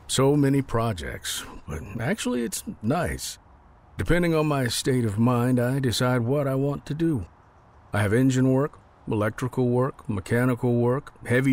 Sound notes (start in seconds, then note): none